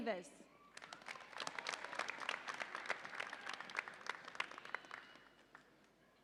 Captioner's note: audience applauds and cheers